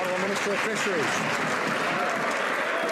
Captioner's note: some Applause